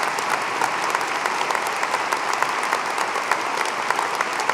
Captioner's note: applause